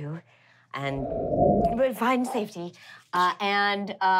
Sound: wind blowing

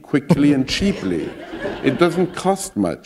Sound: laughter

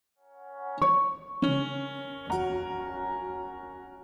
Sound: alerting tones

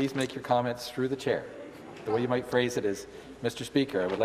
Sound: some Applause

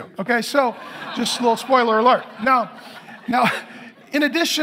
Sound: congregation laughing

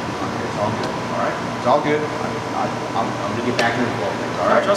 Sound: stammers

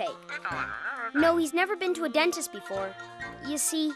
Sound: sighing

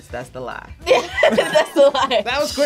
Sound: laughs

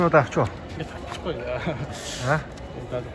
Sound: giggling

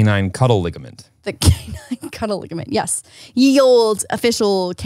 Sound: laughs

